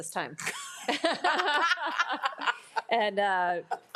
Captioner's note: all laugh